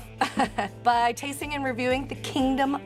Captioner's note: laughs